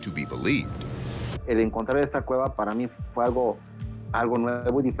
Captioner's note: speaking Spanish